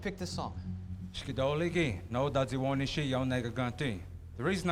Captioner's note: speaking Cherokee